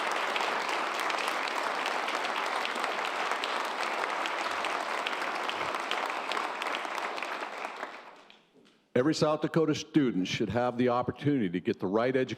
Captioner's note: applause